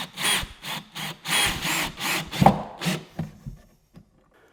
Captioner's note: drill buzzing